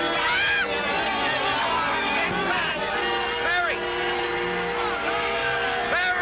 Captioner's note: none